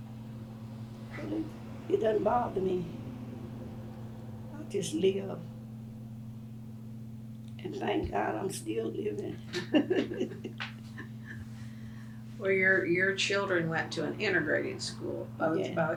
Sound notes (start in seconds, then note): 9.4 laughs